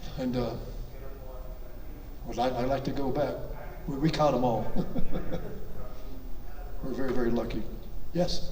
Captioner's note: chuckles